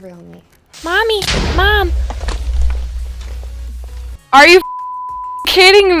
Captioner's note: beep